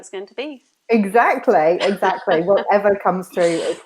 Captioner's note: laughs